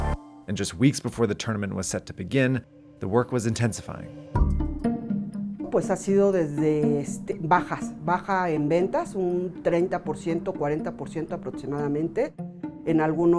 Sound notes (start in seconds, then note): 6.0 speaking in foreign language